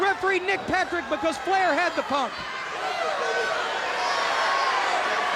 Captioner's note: crowd cheering